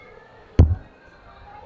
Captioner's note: bonk